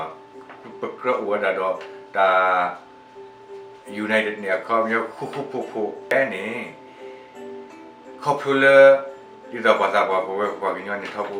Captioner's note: Speaking in Sgaw Karen